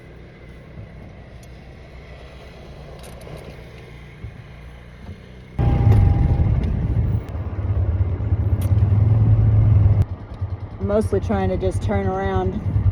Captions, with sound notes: *engines shut off* I'm mostly trying to just turn around